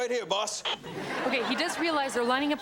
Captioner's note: radio crackles